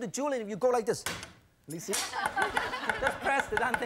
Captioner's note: audience chuckles